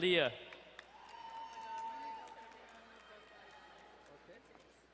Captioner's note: distant cheering